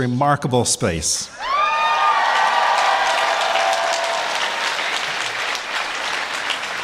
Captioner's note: applause